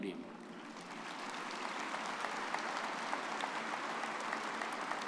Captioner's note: everyone applauding